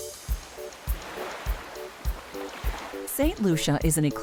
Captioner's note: tropical music; waves crashing